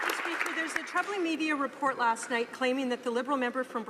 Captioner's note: some Applause